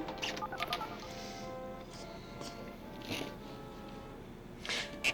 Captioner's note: dialing